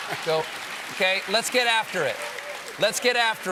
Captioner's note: applause